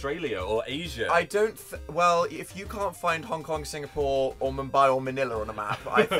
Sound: phil giggling

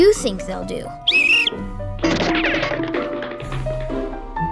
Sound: whistle blows

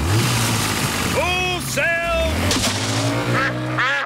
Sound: engine starts

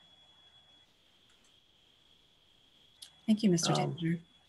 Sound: clicking

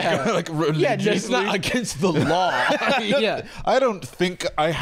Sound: laughs

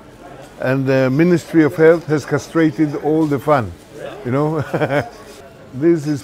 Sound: laughs

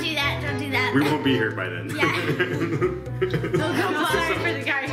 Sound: laughs

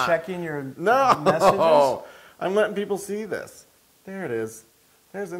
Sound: laugh

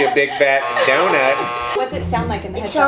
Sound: buzzer buzzing

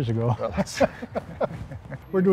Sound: laugh

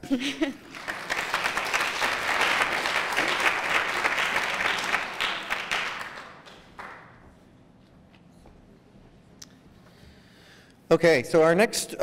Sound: applause

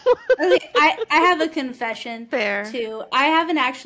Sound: laughter

